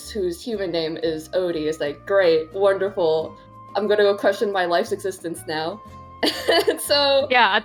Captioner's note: laughs